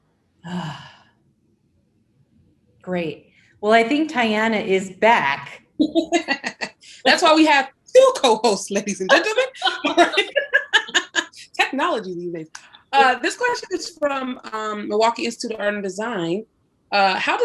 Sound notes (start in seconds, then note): 6.5 laughs; 9.6 laughter